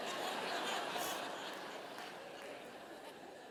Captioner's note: laughter